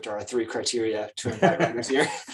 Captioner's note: laughs